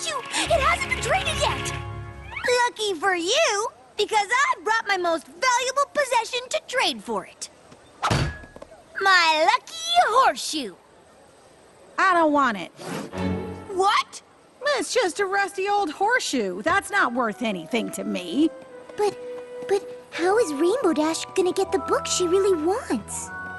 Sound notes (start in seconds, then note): 8.1 clang